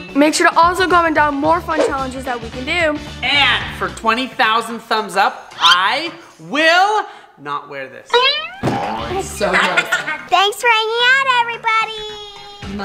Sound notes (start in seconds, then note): 9.0 kids laughing